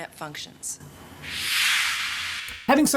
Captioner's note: whoosh